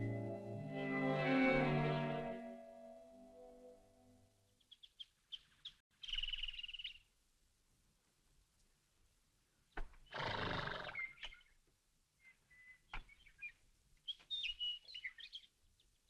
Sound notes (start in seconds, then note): 0.0 evocative music; 6.0 birds chirping; 10.2 horse neighing